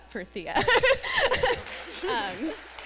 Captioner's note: laughs; applause; laughter